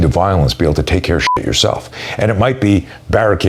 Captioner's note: beep